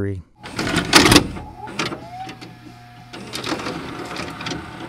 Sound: tape clicks

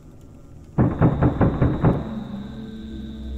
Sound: knocks the door

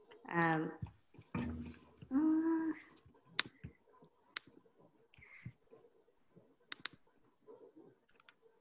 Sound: mouse clicking

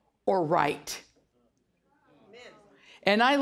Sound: audience murmuring

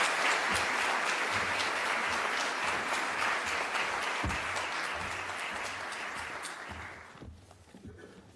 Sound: applause

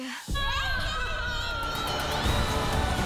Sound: babbles; cheers

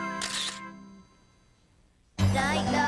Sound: camera Shutter Clicks

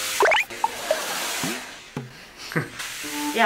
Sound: laugh

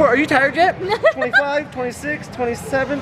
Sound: laughs

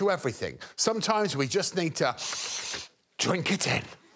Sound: sniffs air loudly

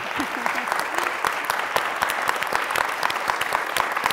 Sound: applause

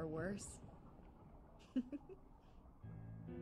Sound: laughs

